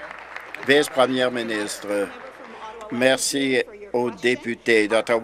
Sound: applause

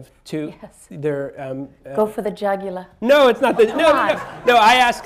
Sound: laughter

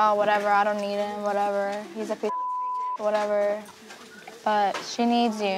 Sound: beep

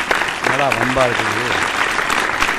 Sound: appreciative applause

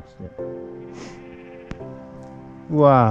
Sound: goat bleating

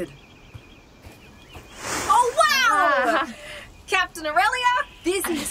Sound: FOOTSTEPS and RUSTLING as SOLARIS marches closer

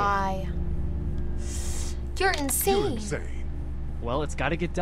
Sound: inhales sharply

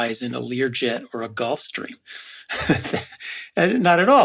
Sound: laugh

